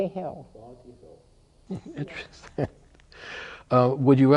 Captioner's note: chuckling